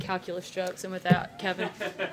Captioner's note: laughter